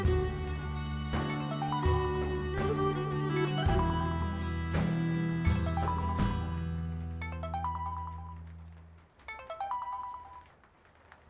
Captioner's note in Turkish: Telefon çalıyor